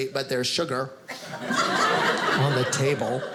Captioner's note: audience laughing